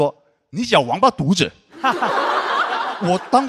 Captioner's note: in a northern dialect